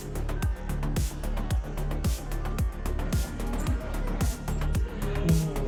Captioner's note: laughs